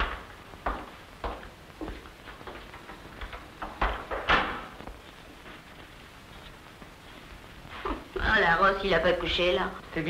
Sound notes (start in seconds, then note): 3.2 door opening